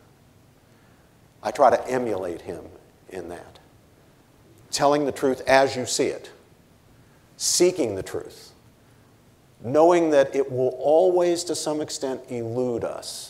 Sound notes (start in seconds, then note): none